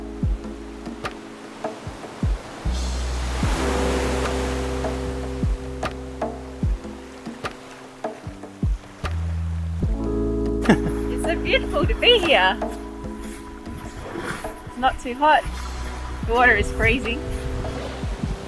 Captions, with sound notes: (waves crashing) (relaxing music) - It's so beautiful to be here! It's not too hot. The water is freezing.